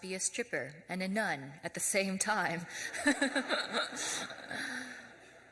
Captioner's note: audience laughs; laughs